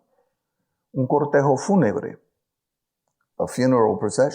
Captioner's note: speaks in foreign language